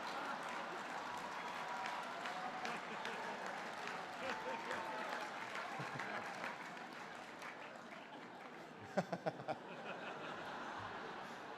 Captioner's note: laughter